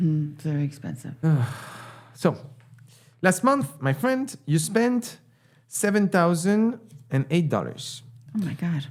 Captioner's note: sigh